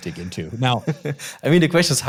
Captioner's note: chuckling